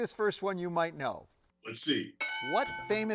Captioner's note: bell dings